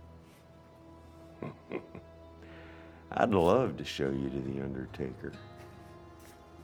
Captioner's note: chuckles